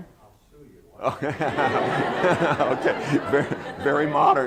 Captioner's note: laughter